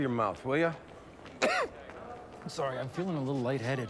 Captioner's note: Ron coughs